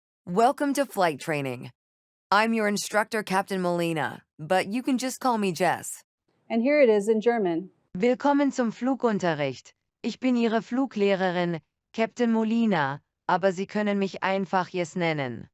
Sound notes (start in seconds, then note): 8.0 female voice 7 speaking german; 9.9 speaking german